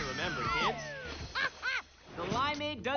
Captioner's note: laughs